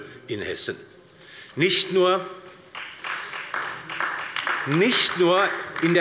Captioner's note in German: Beifall bei der LINKEN und der SPD